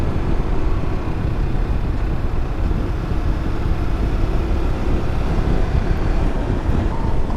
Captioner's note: engine rumbling